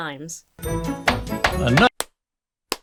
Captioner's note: festive music; Santa claps slowly; imitates Santa clapping